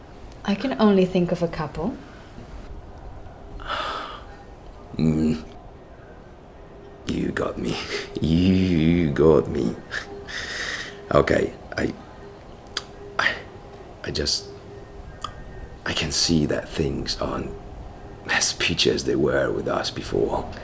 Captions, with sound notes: I can only think of a couple. [Sigh] Mmm. You got me. You got me. Okay. I... I... I just... I can see that things aren't as peachy as they were with us before.